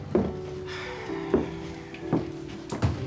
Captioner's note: sighs